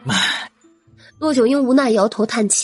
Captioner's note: sigh